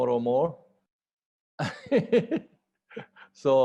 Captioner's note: laughter